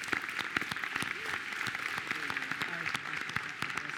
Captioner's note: audience clapping